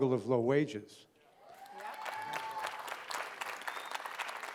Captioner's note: cheering and applause